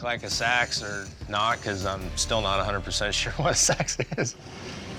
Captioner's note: laugh